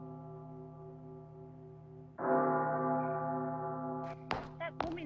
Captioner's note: footsteps